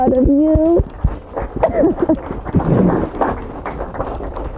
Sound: students clapping

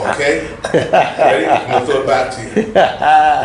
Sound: laughter

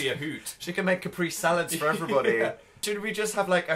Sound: laughing

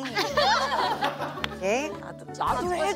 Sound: tee-hee

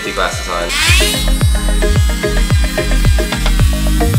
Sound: drilling

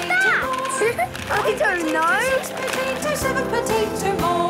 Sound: laughing

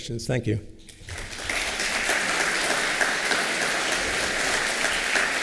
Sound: applause

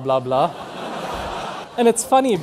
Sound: students laughing

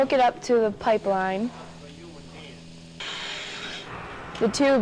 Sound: machine humming

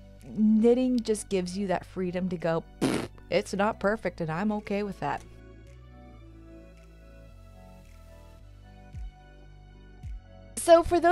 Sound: blowing raspberry

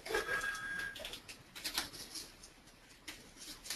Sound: phone ringing

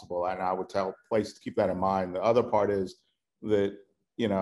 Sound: none

